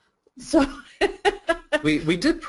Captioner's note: laughing